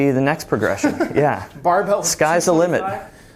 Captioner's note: laughing